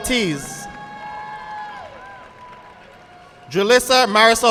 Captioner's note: audience clapping